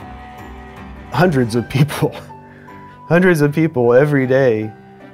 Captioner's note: laughs